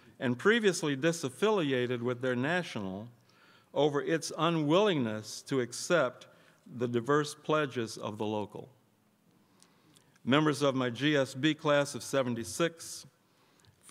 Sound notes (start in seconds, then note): none